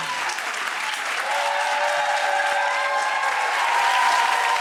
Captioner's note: audience cheering